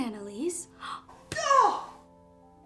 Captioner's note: slam